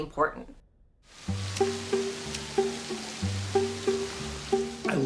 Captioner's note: siren wailing in distance